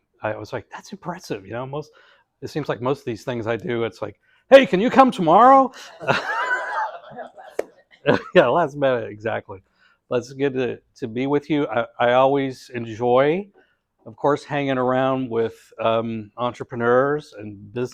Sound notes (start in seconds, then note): 5.9 laugh